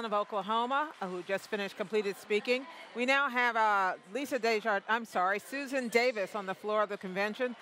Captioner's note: cheering and applause